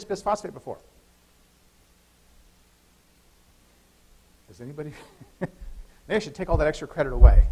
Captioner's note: laughter